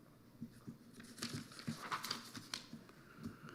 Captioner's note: papers rustling